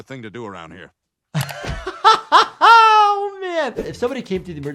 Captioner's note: doctor laughing